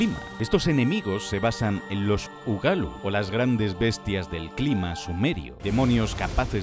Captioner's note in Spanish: gran tormenta